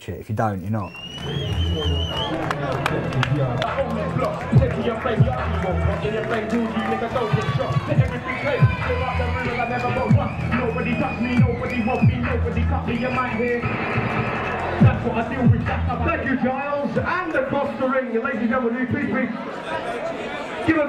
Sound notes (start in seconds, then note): 1.6 audience whistling; 2.7 clapping; 13.6 gun shots